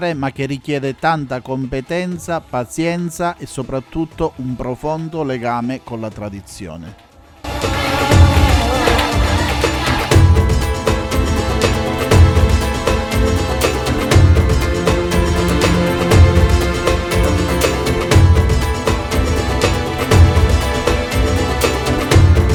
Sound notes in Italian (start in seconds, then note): 7.5 Applauso